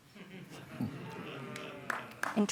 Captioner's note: audience murmurs